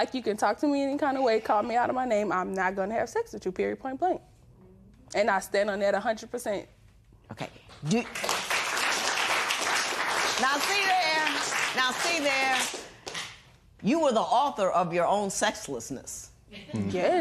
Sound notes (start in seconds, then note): 7.8 applause